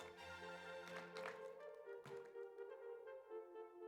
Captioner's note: audience applauds